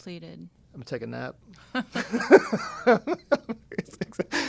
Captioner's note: laughs